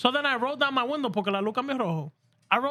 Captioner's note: speaking Spanish